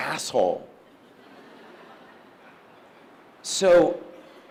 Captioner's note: audience laughs